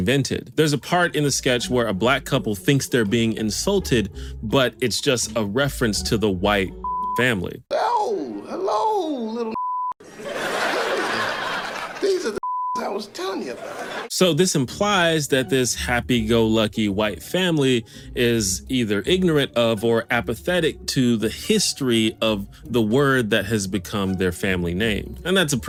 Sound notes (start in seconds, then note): 10.0 audience laughter